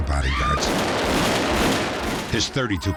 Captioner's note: gun shots